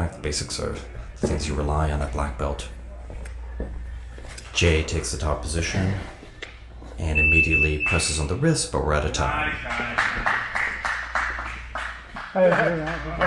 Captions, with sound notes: In fact basics are the things you rely on a black belt. Jay takes the top position. And immediately presses on the wrist. (alarm beeps) But we're out of time. (spectator applauds)